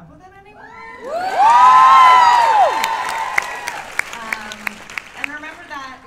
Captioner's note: cheers and applause